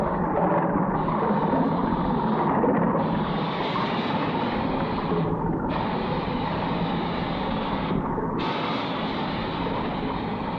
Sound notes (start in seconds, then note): 3.2 steam hissing